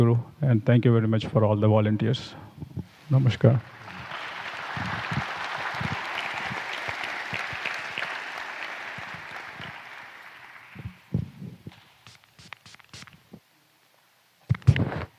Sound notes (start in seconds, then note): 9.3 applause